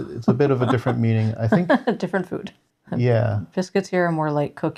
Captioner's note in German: Lacht